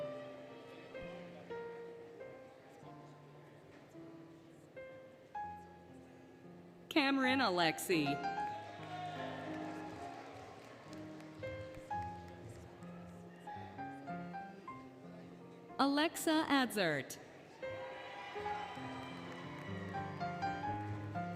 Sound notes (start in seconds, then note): 8.3 applause, Cheering, Music; 17.6 applause, Cheering, Music